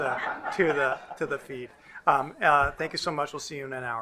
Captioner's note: crown laughing